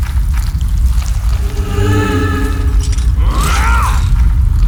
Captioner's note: unearthly moan